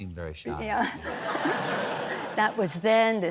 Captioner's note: laughter